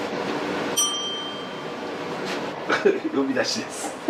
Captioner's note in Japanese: 呼び鈴の音